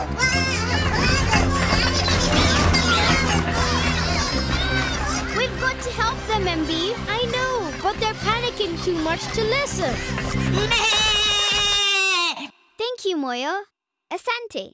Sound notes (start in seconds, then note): 0.1 Bongolalas shouting; 9.9 loud bleating